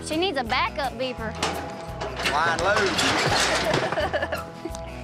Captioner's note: chuckling